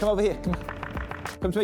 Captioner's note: knocking